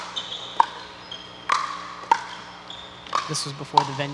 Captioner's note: ball bouncing